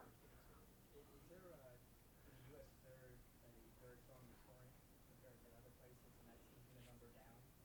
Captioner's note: soft voice murmuring from the back of the classroom